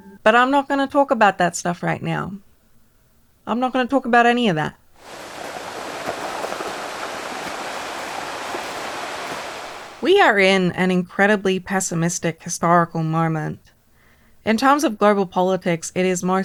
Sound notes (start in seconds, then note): 5.0 gentle ocean sounds